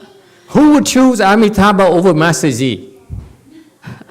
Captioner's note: audience laughs, scratches head